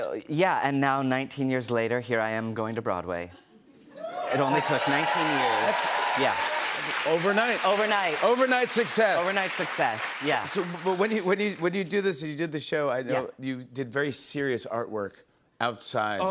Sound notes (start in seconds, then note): 4.0 cheers and applause